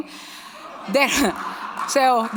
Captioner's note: audience laughing and clapping